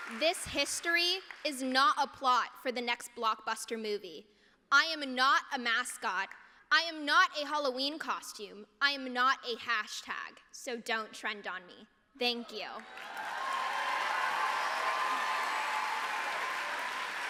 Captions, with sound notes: This history is not a plot for the next blockbuster movie. I am not a mascot. I am not a Halloween costume. I am not a hashtag, so don't trend on me. Thank you. [APPLAUSE]